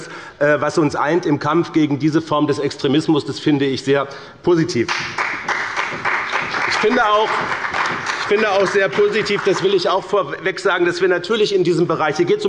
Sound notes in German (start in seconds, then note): 4.8 Beifall bei dem BÜNDNIS 90/DIE GRÜNEN und der CDU